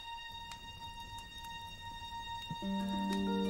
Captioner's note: fire crackling